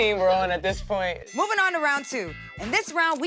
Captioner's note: bell rings